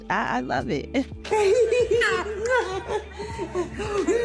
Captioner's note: laughing